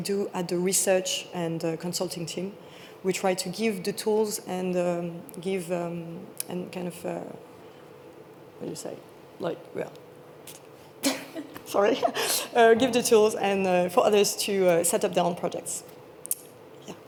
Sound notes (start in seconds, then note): 11.8 laughs